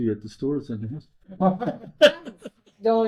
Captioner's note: laughing